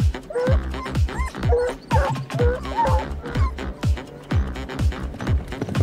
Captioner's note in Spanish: música dinámica; perro ladrando